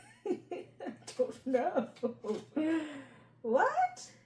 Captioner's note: laughter